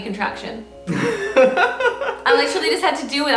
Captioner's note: laughing